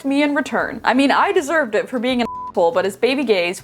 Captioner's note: beeping